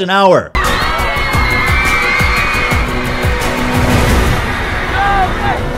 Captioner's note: continuance of screaming; chanting